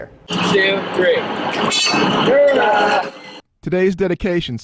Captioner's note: cheering